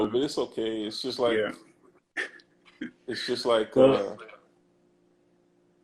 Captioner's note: laughs